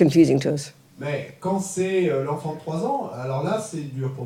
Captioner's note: French